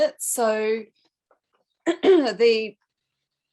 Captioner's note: clears throat